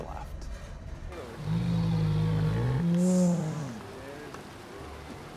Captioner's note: bear growling